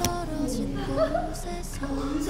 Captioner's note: giggle